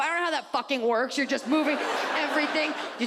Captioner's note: audience laughs